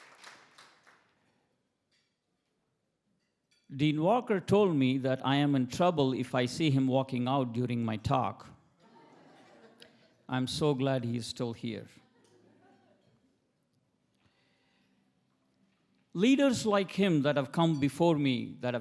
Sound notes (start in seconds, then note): 1.1 cutlery clacking; 8.8 attendees laughing; 12.0 attendees laughing